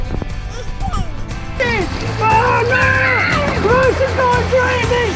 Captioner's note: splashing and laughing